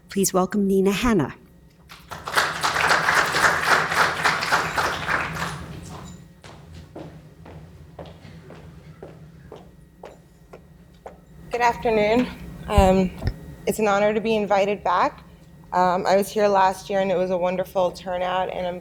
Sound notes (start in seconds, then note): 1.9 applause